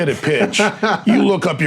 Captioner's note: laughing